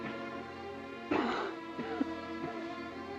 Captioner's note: coughing